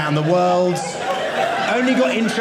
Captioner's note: audience laughing